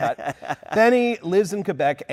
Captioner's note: laughing